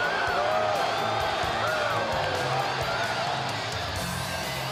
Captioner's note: crowd cheering; crowd chatter